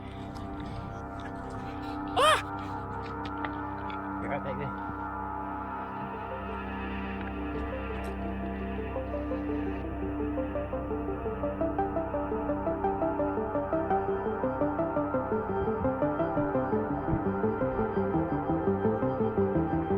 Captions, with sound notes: (scream) you alright back there?